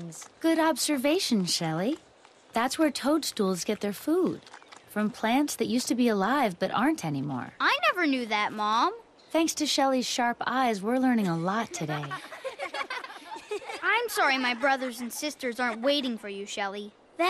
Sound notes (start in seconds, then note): 11.2 laugh